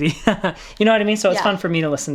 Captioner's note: laughing